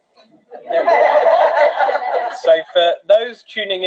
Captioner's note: many voices exclaiming